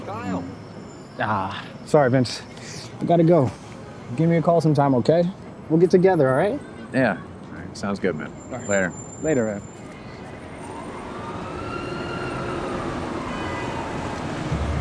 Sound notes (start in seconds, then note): 10.4 sirens wailing